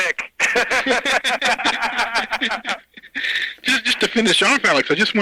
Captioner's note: both laughing